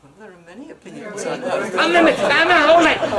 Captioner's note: laughter